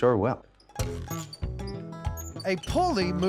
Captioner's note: wheel squeaking